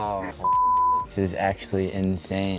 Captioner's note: beep